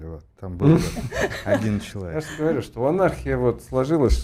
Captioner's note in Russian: смех